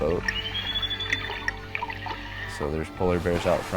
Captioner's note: beluga whales whistling